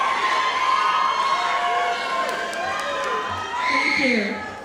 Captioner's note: audience cheering